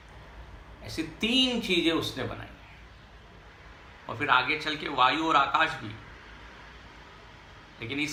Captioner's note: wind